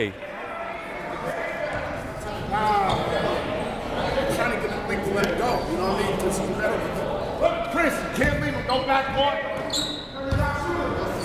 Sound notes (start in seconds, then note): 6.3 coaches barking commands